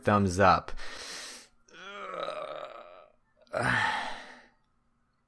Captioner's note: sigh